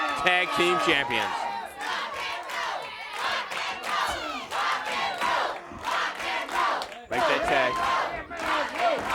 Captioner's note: crowd chatter